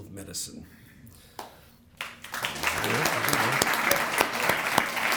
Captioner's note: applause